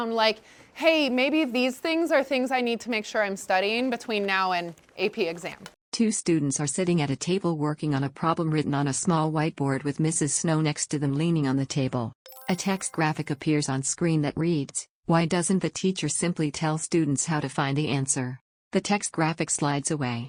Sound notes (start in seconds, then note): 12.2 chime